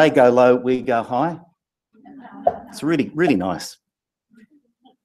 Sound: laugh

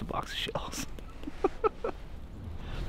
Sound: laughing

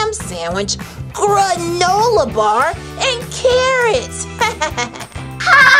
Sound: laughs

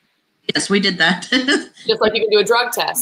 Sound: laughs

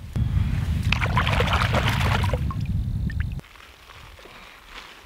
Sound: water splashing

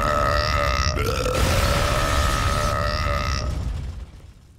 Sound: belching

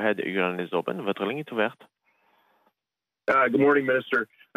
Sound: speaking French

